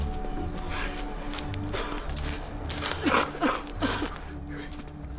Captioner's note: both gasping